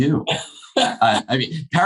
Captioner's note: laughing